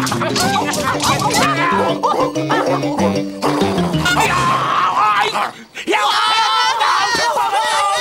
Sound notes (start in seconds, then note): 1.5 dog barking; 5.0 yelling